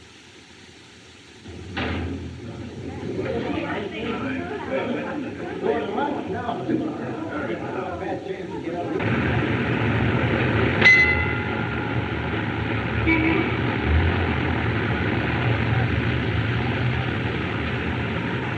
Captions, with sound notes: [Chattering] Fat chance to get up- [Bell Clangs] [Horn Honks]